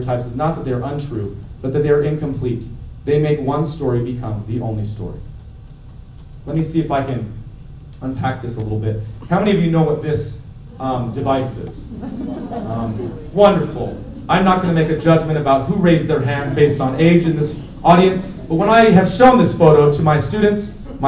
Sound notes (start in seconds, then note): 11.7 laughter